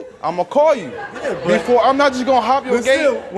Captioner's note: audience laughs